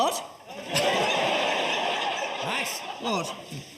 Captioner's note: audience laughs